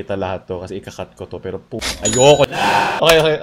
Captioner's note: ka-ching